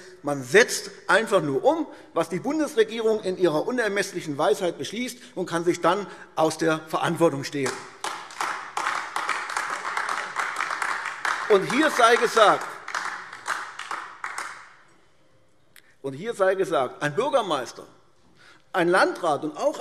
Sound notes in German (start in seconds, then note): 9.4 Beifall AfD